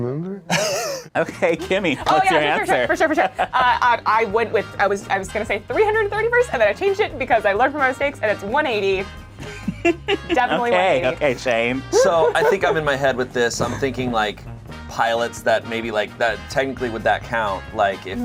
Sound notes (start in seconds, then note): 0.5 laughs; 11.8 laughs